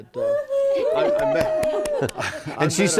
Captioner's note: applause